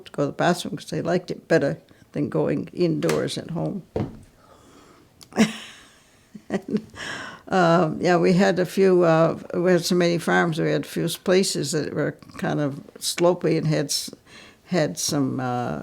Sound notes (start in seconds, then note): 6.3 laughs